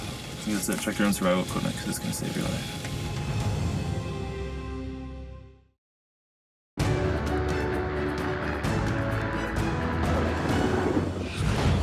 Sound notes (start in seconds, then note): 6.5 helicopter whir; 8.5 bold music